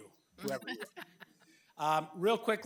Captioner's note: laughing